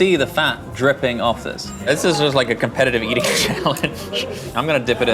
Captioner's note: laughs